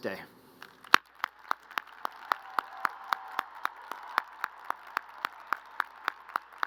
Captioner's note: crowd cheering and applauding